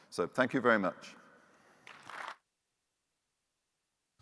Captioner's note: audience applauding